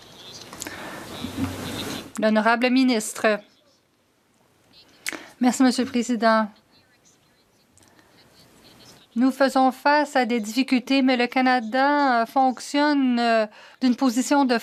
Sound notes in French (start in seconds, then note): 4.9 voix de l'interprète